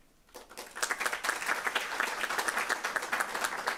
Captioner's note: applause